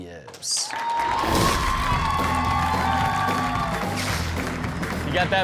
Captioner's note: audience cheers; upbeat music